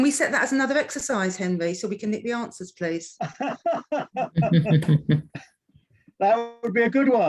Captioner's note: laughs